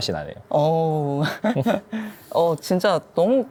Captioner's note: laughs